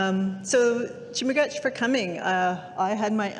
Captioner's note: speaking indigenous language